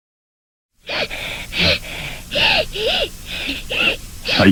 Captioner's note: child crying